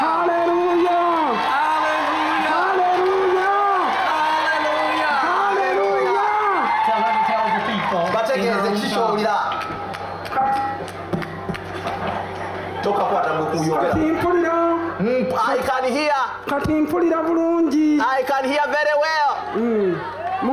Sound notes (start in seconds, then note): 14.7 speaking in local language to the people; 16.9 speaking in local language